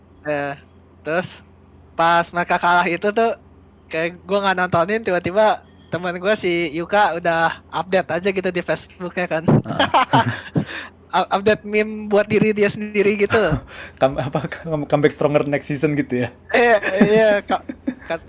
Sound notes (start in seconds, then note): 9.4 laugh